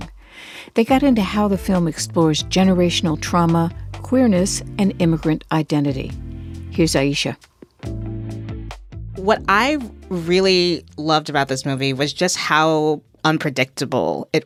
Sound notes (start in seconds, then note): 6.7 soundbite of archived npr broadcast